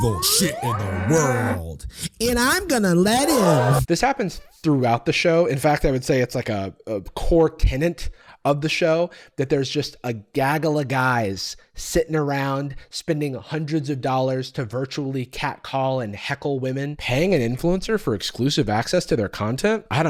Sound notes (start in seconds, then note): 3.1 crowd gasping